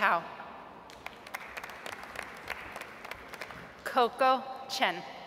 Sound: audience applauds

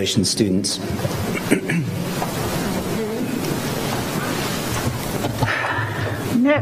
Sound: applause

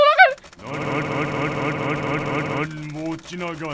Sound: hard clicking

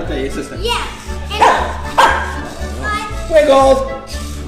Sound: dog barking

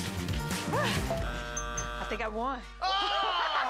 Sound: buzzer buzzing

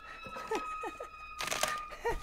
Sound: spooky music; laughing

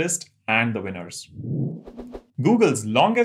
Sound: sound effect

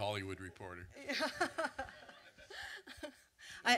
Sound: laughs

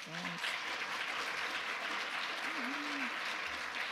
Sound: audience applause

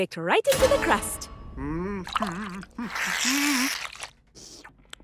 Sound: humming

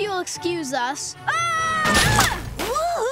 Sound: screaming

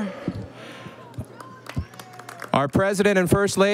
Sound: audience applauding

